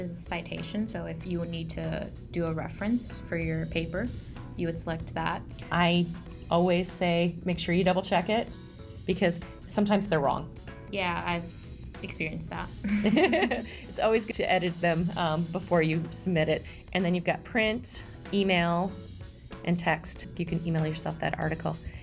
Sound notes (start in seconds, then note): 12.8 laughter